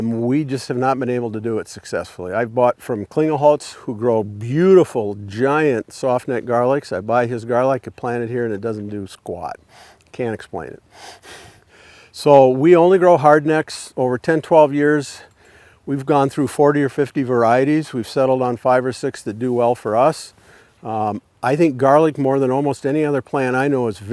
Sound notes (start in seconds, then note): 11.4 chuckles